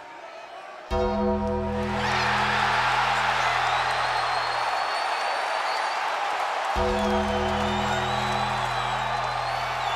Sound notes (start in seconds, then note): 0.9 ominous music; 2.2 audience cheers